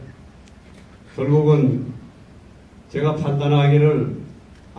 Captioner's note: in foreign language